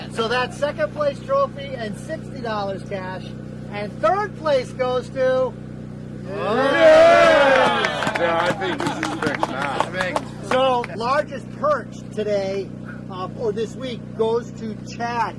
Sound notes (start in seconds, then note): 6.2 cheering